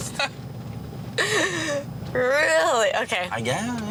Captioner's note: laughing